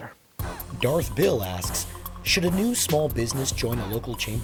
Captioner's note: voiceover